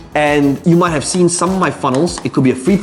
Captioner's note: marker tapping